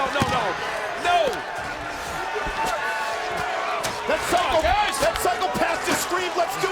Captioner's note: applause